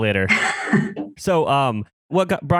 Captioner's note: laughs